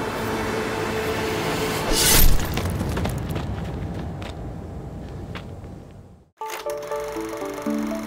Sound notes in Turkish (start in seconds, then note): 1.8 Hançer sesi